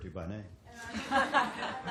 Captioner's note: laughter